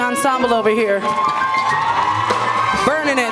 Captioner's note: applause